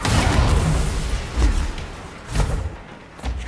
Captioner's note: gun fires